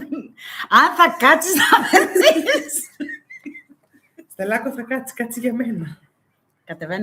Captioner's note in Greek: γέλια; γέλια